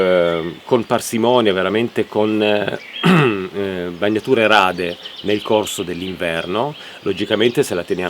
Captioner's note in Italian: schiarire la voce